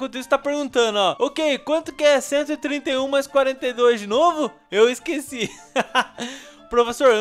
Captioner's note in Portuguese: risos